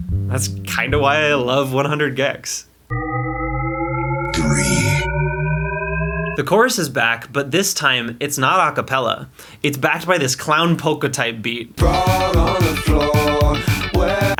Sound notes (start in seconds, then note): 2.9 shepard tone